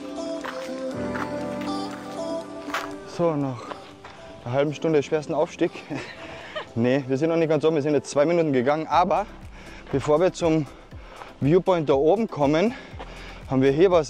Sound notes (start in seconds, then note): 5.8 laughs